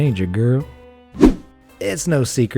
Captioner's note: air whooshing